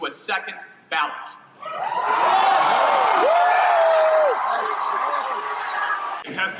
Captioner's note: crowd cheers